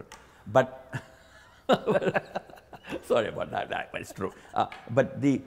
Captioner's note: both laugh